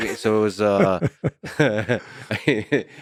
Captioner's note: laughs; Lex laughs